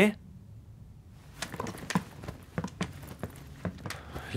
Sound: clattering sound of luggage

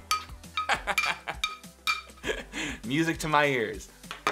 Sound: laughs

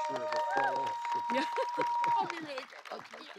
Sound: laughs

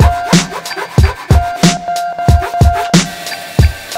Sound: upbeat instrumental music; loud sanding; saw blade whirring

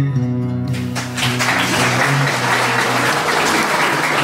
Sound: applause

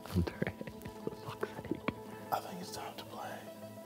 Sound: man laughs

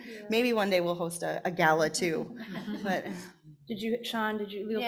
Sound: panel chuckling

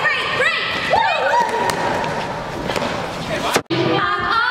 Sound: all whoop

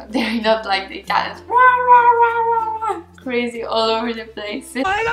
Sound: wæhwæhwæh

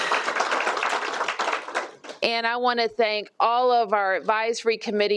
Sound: applause

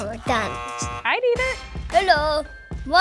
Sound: buzzer

